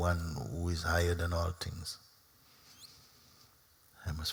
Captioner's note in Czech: none